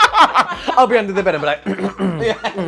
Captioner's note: clears Throat